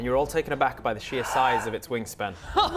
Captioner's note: gasps